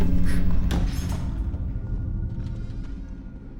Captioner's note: demonic voice whispers; Mattie gasps